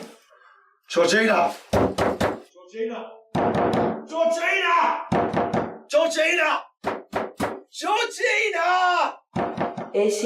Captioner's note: banging on door